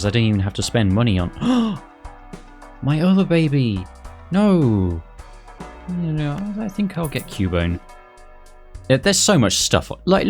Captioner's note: gasp